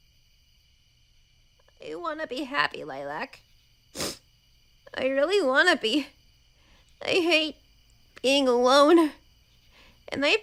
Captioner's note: sniff